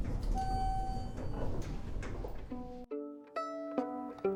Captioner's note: elevator dings; soft string music